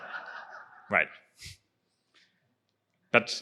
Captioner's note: laughter